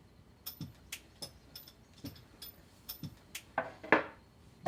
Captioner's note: spurs rattling